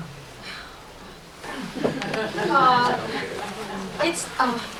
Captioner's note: laughter